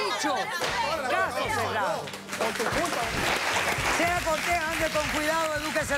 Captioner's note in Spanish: aplausos